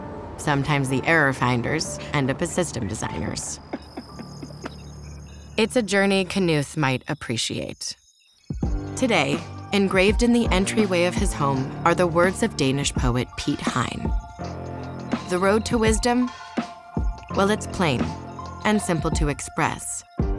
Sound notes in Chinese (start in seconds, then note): 3.5 笑聲; 8.6 戲劇性音樂